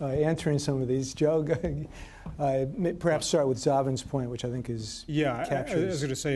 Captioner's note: chuckles